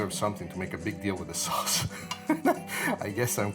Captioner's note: laughs